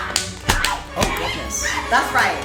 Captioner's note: laughs; Screams as she attacks Monique